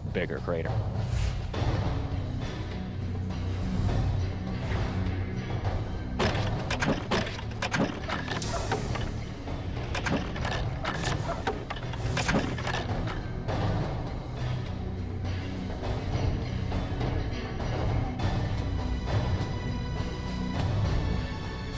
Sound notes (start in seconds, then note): 0.1 suspenseful music; 5.7 rock launching